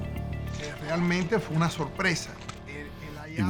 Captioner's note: speaking Spanish